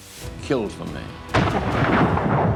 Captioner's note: gunshot